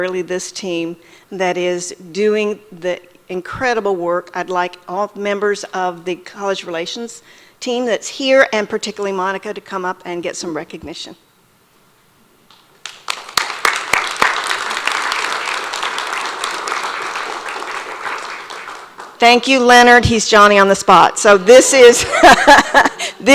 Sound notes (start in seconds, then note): 12.8 audience applauds; 22.5 laughs